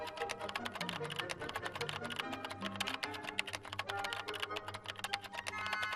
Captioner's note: gentle classical music; keyboard keys clattering